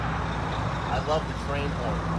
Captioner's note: engine revving